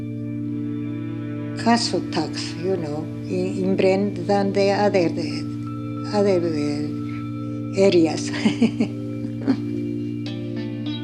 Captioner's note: laughs